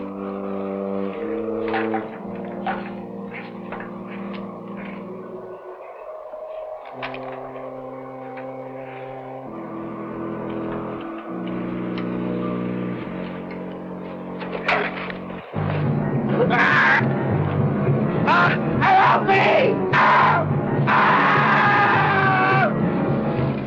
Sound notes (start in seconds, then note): 0.1 foreboding music; 16.6 screaming; 21.2 screaming; 23.4 dramatic music